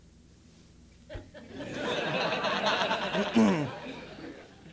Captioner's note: laugh; cough